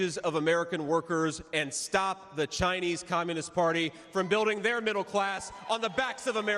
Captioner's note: cheers and applause